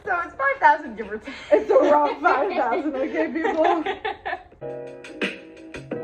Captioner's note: laughing